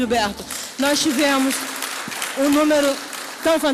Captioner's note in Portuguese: aplausos